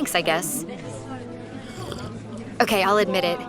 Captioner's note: slurps coffee